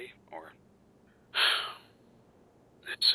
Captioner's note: sigh